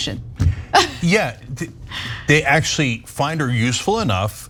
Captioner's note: laugh